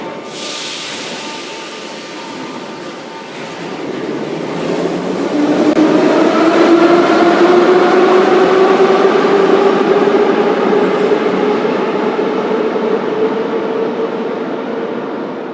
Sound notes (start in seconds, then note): 5.2 train leaves to the next station